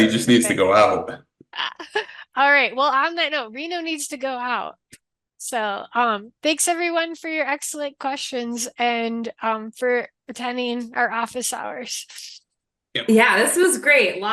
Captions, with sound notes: he just needs to go out. - (laughs) All right, well on that note, Reno needs to go out. So thanks everyone for your excellent questions and for attending our Office Hours. - Yep. - Yeah, this was great.